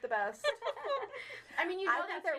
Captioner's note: all laughing